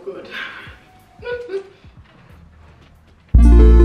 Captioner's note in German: laughs